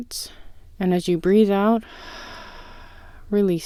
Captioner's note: exhale